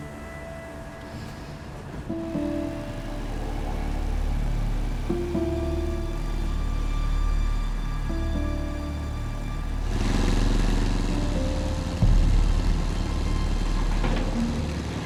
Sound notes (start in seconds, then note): 2.1 solemn music; 9.9 engines hum